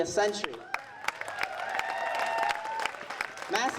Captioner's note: audience applauding